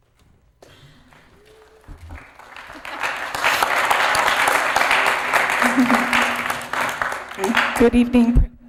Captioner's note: applause